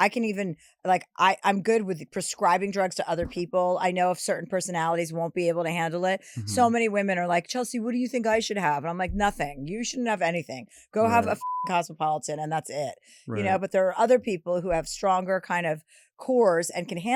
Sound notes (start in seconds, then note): 11.0 beep